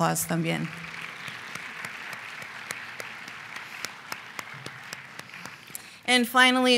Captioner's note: applause